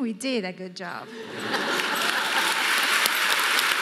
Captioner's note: audience laughing; audience applauding